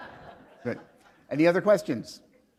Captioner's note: laughter